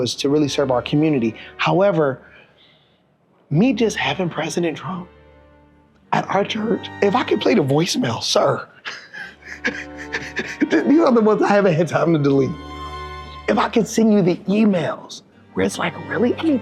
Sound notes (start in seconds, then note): 8.8 laughing; 12.8 pensive music